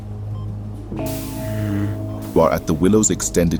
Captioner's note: hospital sounds